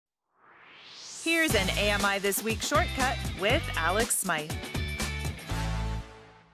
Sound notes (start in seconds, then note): 0.3 swoosh